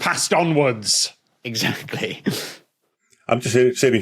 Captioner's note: laughs